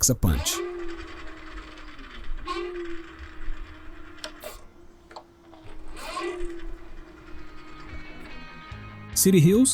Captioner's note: motor Sound